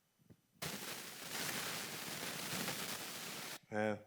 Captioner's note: feedback hissing